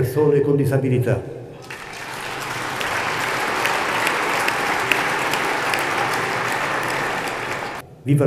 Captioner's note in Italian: applausi